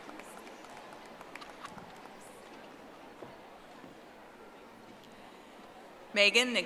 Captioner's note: audience applauding